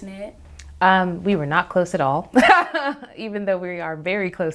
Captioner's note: laughs